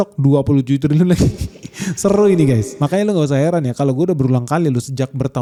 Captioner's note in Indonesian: tertawa